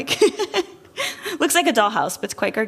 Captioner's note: laughter